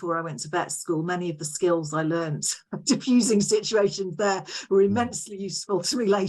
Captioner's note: chuckles